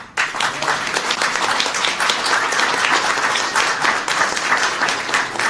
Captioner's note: applause